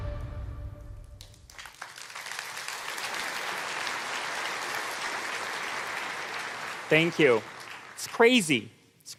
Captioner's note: applause